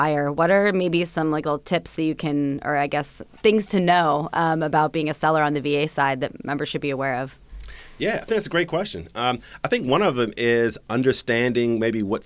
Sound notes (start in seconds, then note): none